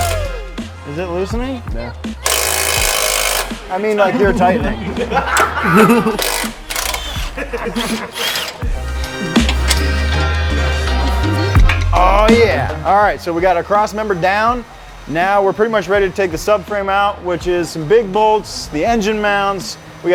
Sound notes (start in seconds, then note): 2.2 whirring and clicking; 4.3 loud laughter